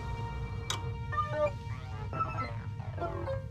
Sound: electronic noise; computer sounds

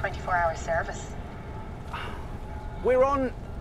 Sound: sighs

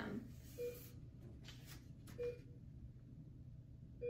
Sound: beeping

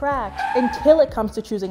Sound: brakes screeching

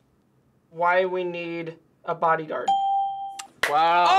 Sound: ding; claps

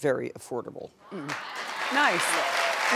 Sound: audience clapping

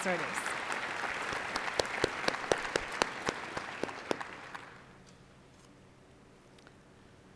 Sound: applause

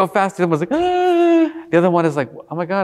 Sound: screaming

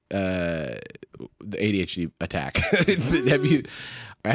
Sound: laughs

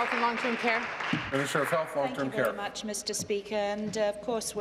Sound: applause

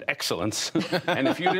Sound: laughter

